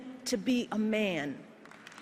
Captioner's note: applause